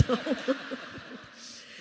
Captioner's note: laughter